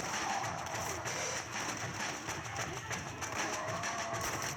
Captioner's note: random gunshots and music; sounds of zombies and fires